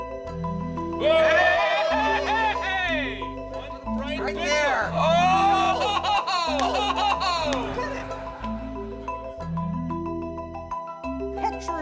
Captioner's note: happy scientist noises